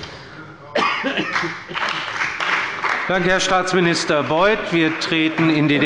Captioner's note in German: Beifall bei der CDU und dem BÜNDNIS 90/DIE GRÜNEN